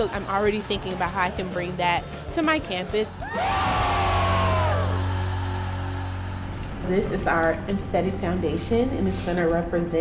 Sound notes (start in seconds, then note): 3.0 group shouting